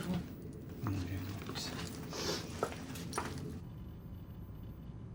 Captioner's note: woman mumbling